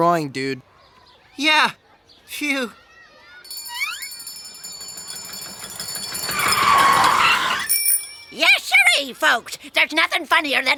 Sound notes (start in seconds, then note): 3.4 bell ringing; 7.7 tires screeching